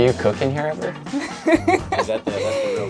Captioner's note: laughs